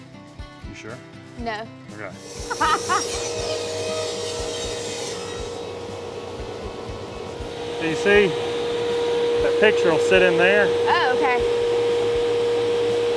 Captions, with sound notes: You sure? No. Okay. (laughs) (saw machine noise) Do you see that the picture will sit in there. Oh okay.